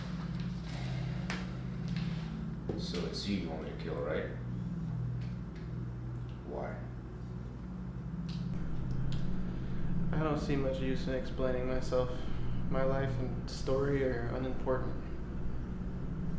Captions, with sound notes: - (sighs) So it's you you want me to kill, right? Why? - I don't see much use in explaining myself. My life and story are unimportant.